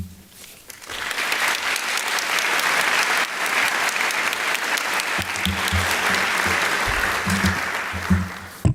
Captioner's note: applause